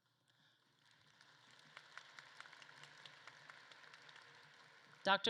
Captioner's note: audience claps